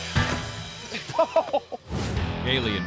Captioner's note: snickering